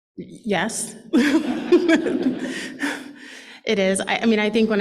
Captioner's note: laughter